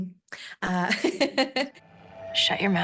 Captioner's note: laughter